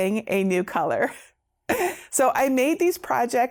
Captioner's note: laughing